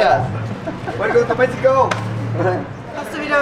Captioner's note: in English